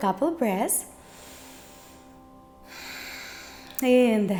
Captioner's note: inhales and exhales